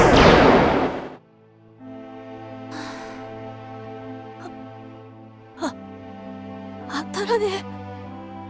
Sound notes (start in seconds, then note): 2.7 weary sigh; 4.5 disbelieving gasp